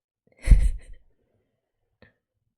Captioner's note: laughs